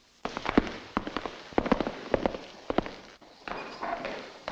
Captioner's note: footsteps echoing